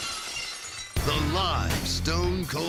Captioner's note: glass shattering